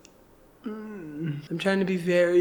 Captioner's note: groaning